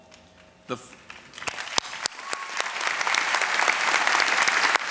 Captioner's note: applause